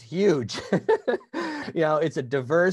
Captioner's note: laughs